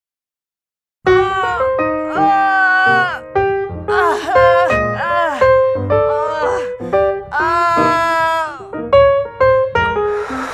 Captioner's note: moaning